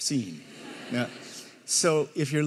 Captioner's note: audience laughing